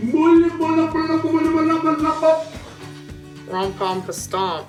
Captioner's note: yelling